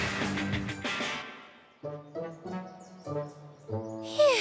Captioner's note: birds chirping